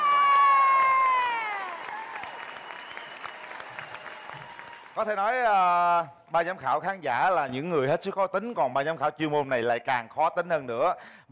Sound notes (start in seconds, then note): 0.0 applause